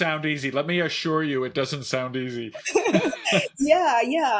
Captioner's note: chuckles